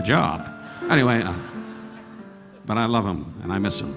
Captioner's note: audience laughing